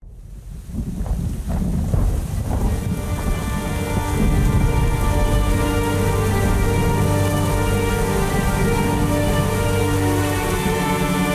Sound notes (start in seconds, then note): 2.4 atmospheric music; 6.7 rain